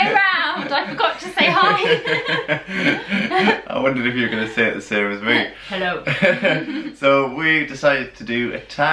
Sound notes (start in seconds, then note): 2.7 laughter